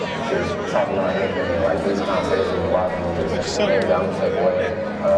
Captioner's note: pa announcement